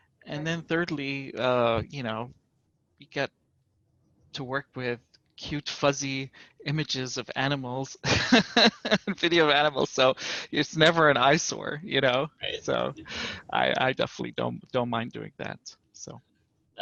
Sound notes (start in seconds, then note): 8.0 laughter